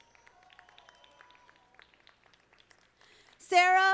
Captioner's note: audience applauding